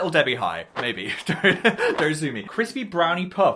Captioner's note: laughs